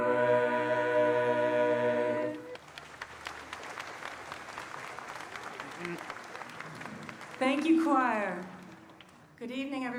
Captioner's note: applause